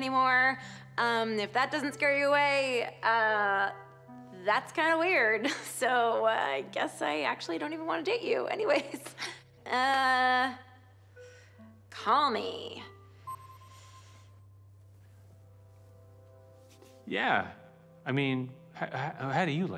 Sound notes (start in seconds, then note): 13.2 system beeps